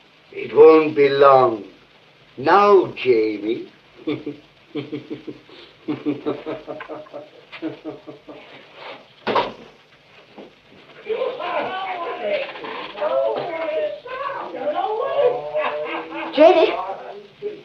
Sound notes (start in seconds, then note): 11.0 distant shouting and laughter